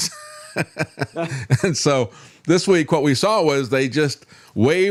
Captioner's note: laughs